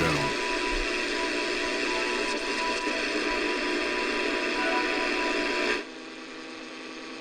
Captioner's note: static and Faint music continues